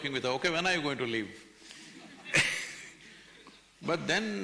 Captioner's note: laughs